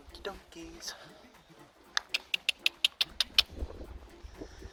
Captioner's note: smoooch / click